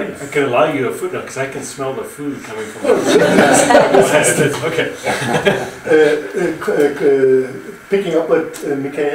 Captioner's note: audience laughs